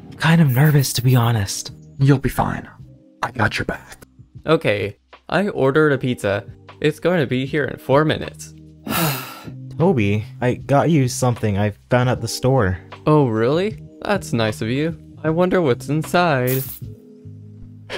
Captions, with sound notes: I’m kinda nervous to be honest. You’ll be fine, I got your back. Okay, I ordered a pizza. It's going to be here in 4 minutes. *Deep breath* Toby, I got you something that I found at the store. Oh, really? That’s nice of you. I wonder what's inside.